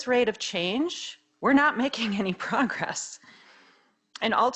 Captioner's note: laughing